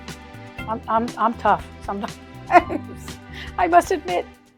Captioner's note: laughs